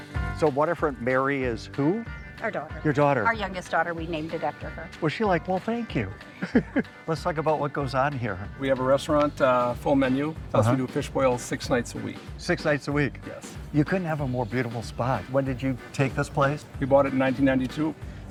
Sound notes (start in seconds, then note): 0.0 upbeat music; 6.3 all chuckle